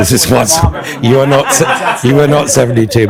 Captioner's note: laughter